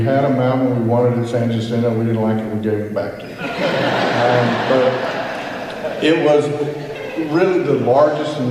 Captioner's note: laughter